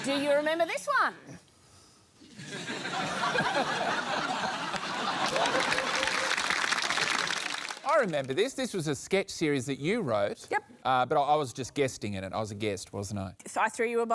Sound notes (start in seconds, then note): 2.3 laughter; 4.6 applause